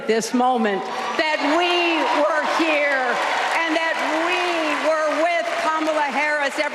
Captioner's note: applause